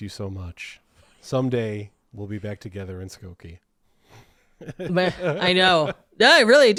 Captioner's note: laughing